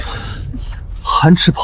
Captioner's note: gasps